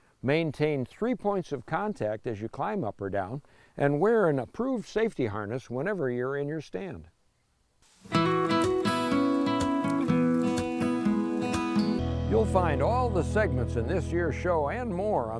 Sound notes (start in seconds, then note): 7.8 leaves crunching; 8.0 gentle guitar music